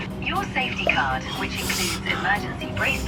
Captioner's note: taking deep breaths